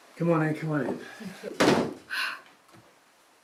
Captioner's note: door shutting closed